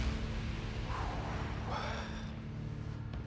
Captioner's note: exhales